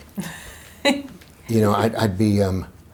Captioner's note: laughs